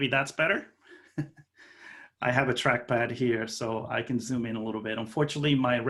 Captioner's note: laughing